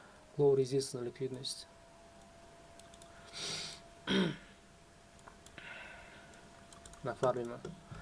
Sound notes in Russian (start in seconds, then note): 4.0 откашливается; 4.0 кашель